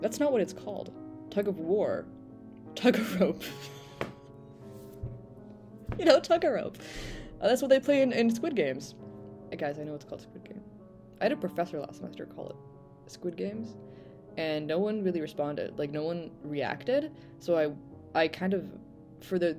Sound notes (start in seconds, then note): 3.4 laughter